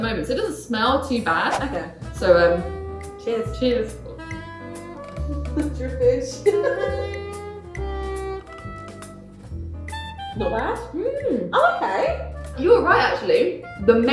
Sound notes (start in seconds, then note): 1.4 air whooshes; 7.4 laughs